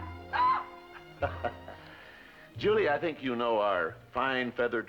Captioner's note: laughs; squawks